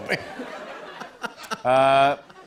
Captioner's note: laughter